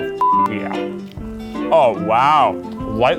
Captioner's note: beep